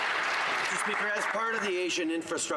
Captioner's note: some Applause